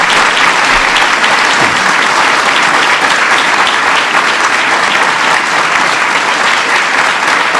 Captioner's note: applause